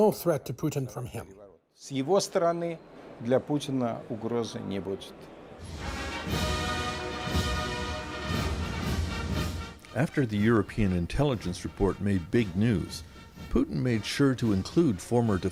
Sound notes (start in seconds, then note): 4.3 speaking Alternate Language